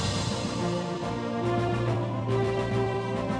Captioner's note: none